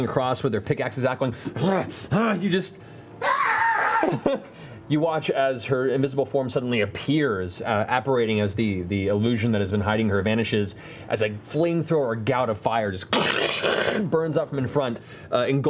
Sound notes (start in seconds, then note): 2.8 heavy breathing; 3.2 screams